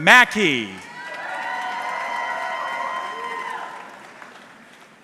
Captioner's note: audience cheering